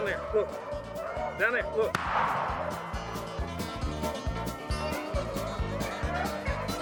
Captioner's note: gun fires